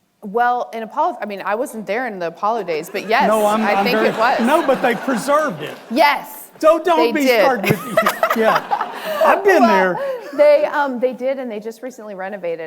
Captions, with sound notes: - Well, in Apollo, I mean, I wasn't there in the Apollo days, but yes, I think it was. (audience laughing) - No, but they preserved it. - Yes. - So don't start with me. (Christina laughs) I've been there. - They did, and they just recently renovated it,